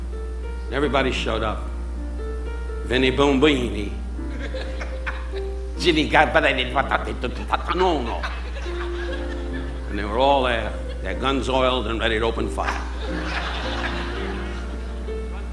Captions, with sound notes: Everybody showed up. Vinny Boombini. (audience laughing) (Don speaking gibberish) And they were all there. Their guns oiled and ready to open fire. (audience laughing)